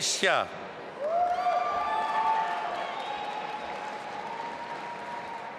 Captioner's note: audience applauding